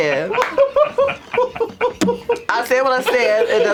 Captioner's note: laughter